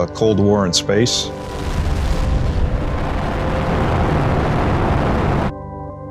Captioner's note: rocket engine roaring